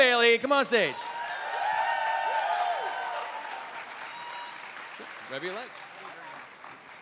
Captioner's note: cheering